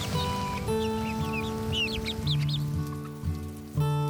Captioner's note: chicks chirping